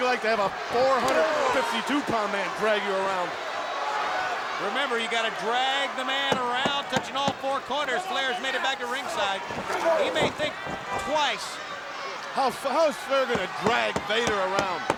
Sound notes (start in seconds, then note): 11.3 hand smacking